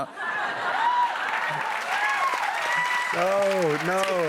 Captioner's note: cheers and applause